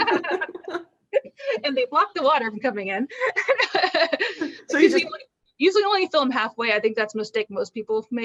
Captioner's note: laughter